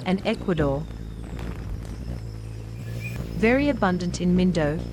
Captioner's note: bird's wing flapping